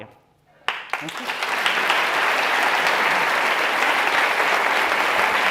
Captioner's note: applause